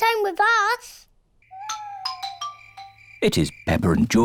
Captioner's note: owls hoot